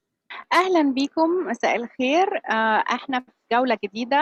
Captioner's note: speaking Arabic